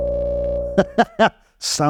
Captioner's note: laugh